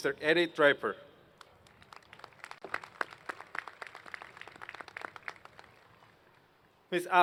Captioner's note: applause